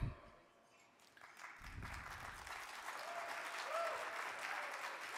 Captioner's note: audience clapping